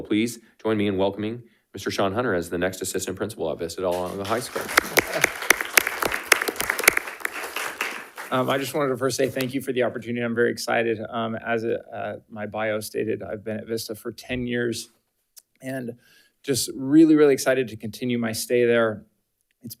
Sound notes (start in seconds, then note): 3.9 attendees applauding